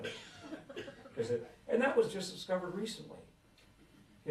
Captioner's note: laughter